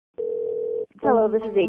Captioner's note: phone ringing